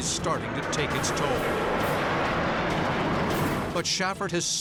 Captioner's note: jet engine noises